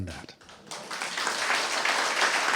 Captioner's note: applause